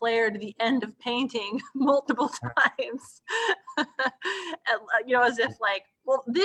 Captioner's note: laughs